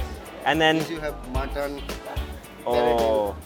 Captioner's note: murmurs